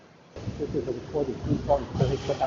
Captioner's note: heavy background white noise